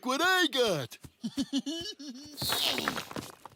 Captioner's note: giggling; groans